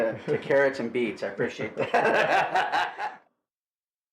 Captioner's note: laughs